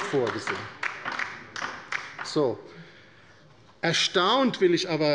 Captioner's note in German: Beifall bei der LINKEN